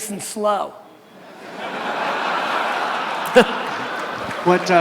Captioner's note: audience laughter